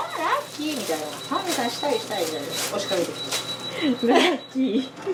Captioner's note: laughs